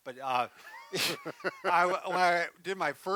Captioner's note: laughs